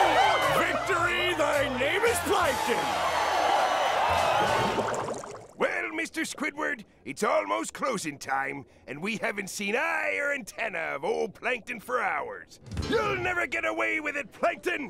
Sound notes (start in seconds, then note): 2.7 cheering